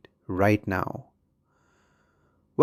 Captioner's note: pause